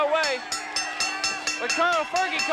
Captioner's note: bell dinging